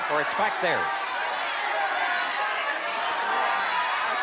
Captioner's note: crowd clamoring